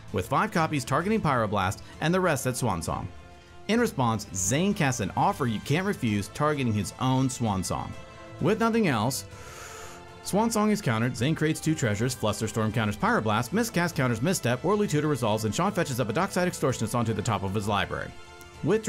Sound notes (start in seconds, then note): 9.2 deep breath